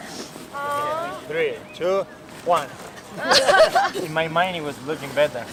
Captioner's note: laughter